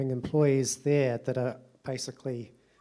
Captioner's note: none